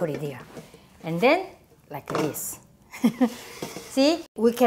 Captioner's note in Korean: 웃음